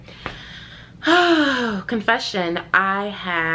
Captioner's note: sighs